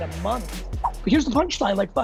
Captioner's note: air whooshing